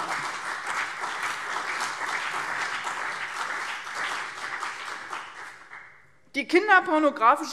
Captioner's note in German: Beifall CDU und BÜNDNIS 90/DIE GRÜNEN